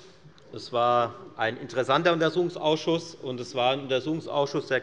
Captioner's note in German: none